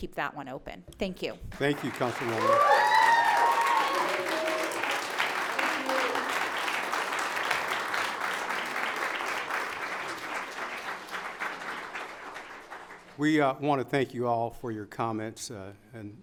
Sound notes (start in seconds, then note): 2.6 audience applauds; 2.6 audience cheers